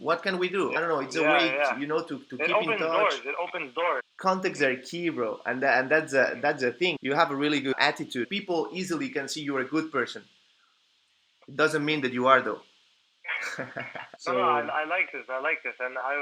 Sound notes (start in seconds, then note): 13.4 laughter